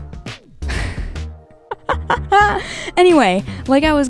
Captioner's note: laughing